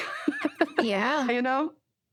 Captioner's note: laughter